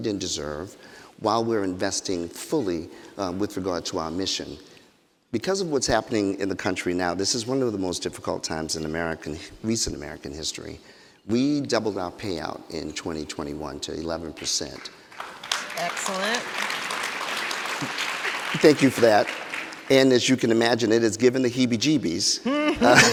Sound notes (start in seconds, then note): 14.4 people clapping; 22.4 people laughing